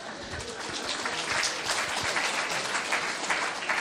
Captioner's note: audience clapping